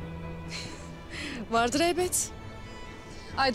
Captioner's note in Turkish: Gülme sesleri